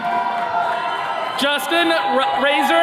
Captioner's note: attendees cheering